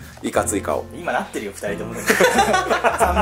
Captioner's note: laugh; laughs